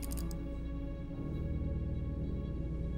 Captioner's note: mouse clicks